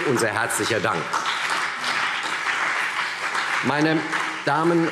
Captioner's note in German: Beifall CDU und BÜNDNIS 90/DIE GRÜNEN